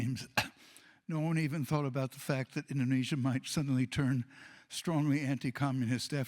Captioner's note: cough